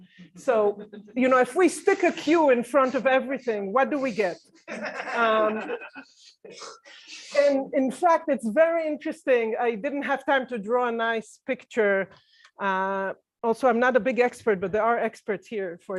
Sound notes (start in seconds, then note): 4.6 laughter